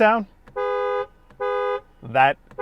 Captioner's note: horn blaring